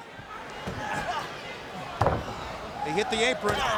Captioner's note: Rey Jr thuds